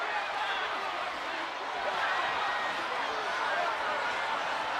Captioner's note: crowd chattering